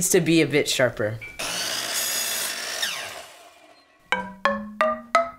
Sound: saw whirring

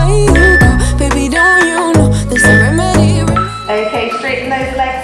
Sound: alarm beeping

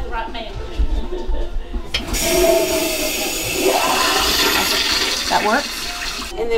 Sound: toilet flushes

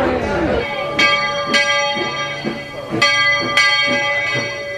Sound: bell chiming

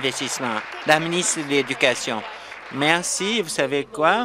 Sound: applause

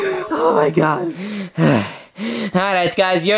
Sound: laughing; panting

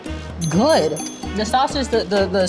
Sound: bell chiming gently

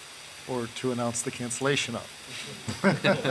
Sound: laughing

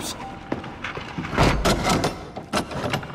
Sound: Ezio closes door

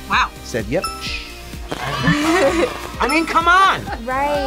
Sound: crowd cheers; laughs

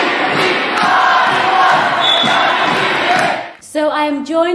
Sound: crowd chanting

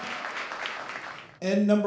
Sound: cheers

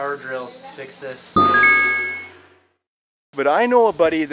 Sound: electronic chime

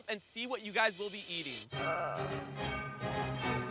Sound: dramatic music; groaning

